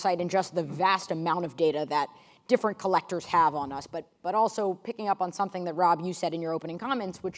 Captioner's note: none